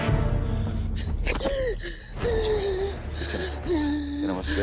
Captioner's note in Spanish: Elizabeth jadea